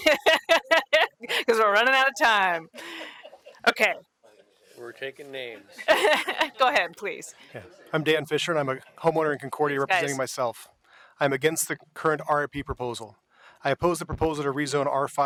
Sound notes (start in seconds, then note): 5.8 laughter